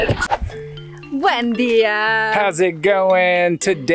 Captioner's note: speaks foreign language